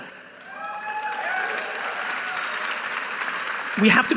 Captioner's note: audience applauding